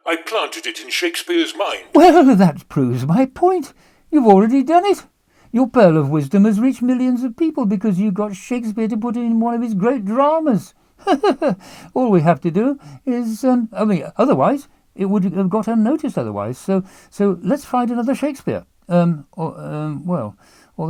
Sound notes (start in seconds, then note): 11.0 laughs